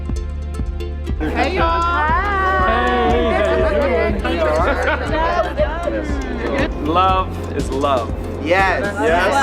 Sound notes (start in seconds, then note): 3.5 everyone greeting